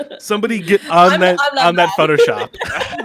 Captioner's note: laughs